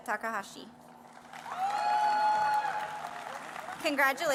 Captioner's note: applause